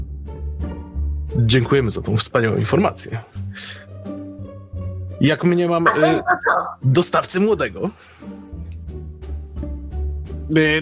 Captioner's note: he speaks with the poshest accent and sophisticated language